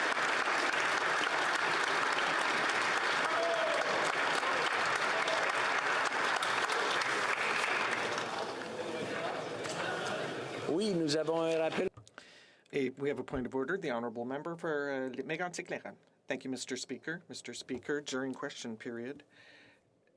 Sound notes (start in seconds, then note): 10.7 cheering and Applause